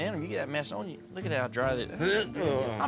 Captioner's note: dry heaves